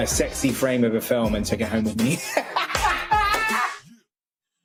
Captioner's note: laughs